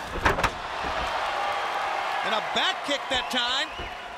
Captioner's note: crowd cheering